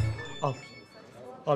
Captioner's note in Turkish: Telefon zili